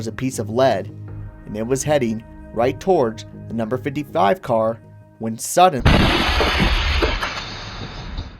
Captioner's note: crash